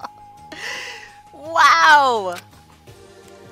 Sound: laughs

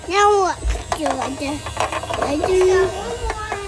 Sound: mumbling

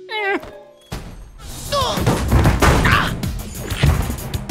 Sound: grunting

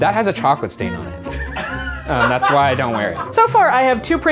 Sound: laughing

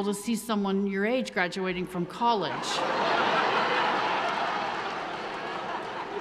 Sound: audience laughing

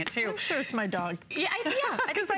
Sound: laughter

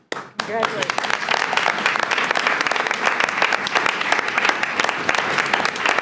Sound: attendees applauding

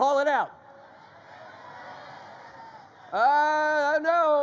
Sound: audience shouts answers

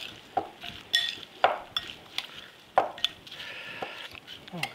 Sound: spoon clinking

